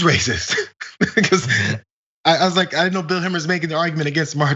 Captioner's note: laugh